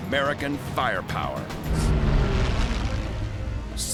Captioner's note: engines whining